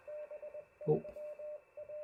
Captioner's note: morse code